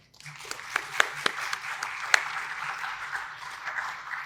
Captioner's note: audience applauds